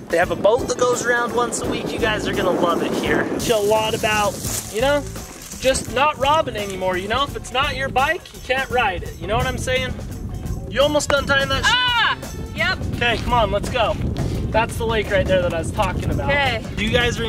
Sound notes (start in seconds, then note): 12.1 groans